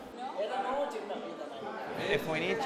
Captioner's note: speaking in Spanish